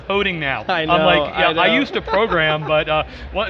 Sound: laughs

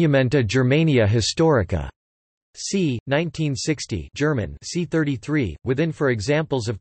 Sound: German

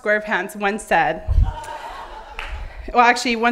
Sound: laughing

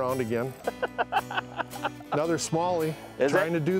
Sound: laughter

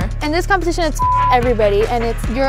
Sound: beep

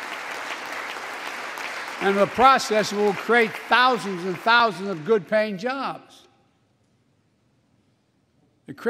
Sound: applause

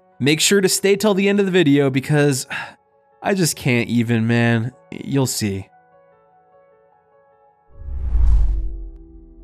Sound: sighes

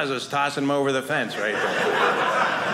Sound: audience laughing

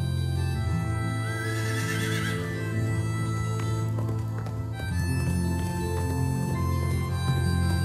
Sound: horse gallops away

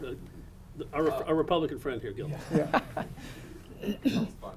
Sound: chuckling

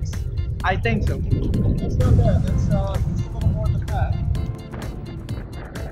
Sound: talking from distance

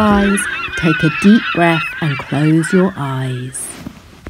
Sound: animal sounds

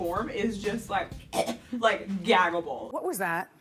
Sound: choking sound

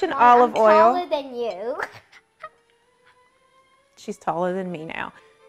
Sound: laughs

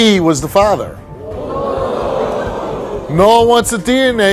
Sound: audience jeers

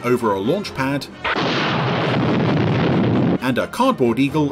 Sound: loud explosion

